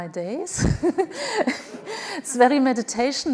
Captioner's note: laughs